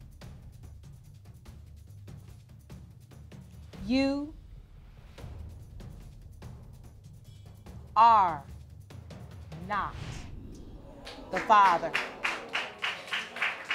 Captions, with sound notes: You... ...are not the father. (AUDIENCE GROANS) (AUDIENCE APPLAUDING)